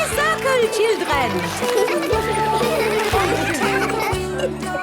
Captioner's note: laughter; giggling